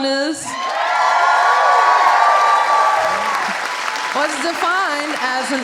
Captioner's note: audience cheering